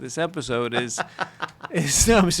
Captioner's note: laughs